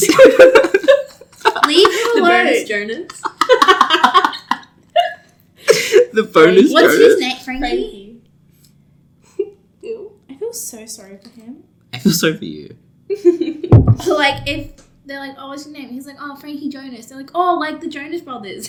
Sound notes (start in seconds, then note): 0.0 laugh; 13.1 giggles